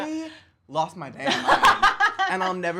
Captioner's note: laughs